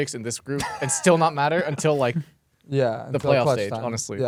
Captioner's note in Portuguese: risos